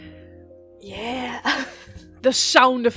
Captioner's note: laughs